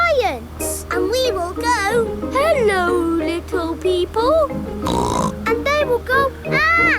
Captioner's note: snorts